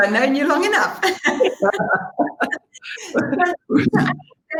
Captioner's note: laughter